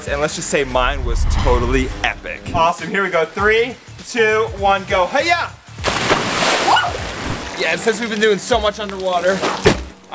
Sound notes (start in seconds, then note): 6.0 water splashing; 6.6 screaming